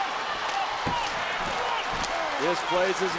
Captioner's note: crowd claps rhythmically